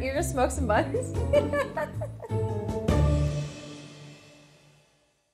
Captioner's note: laughs